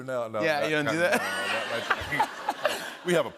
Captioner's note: laughter